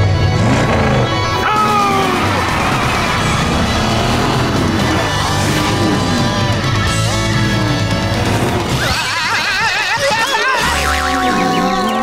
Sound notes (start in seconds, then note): 5.2 speeding